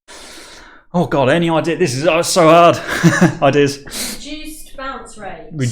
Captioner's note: chuckling